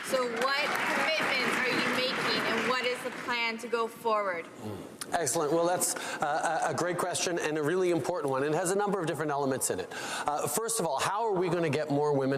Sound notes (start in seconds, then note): 4.4 applause